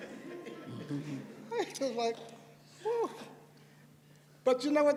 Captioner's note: laughter